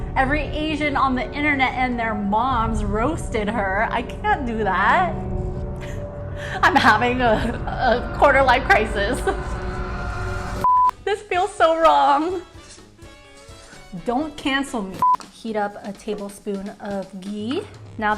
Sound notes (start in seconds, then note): 9.5 intense music; 13.0 scraping pan